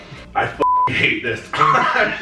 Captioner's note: beep; laughing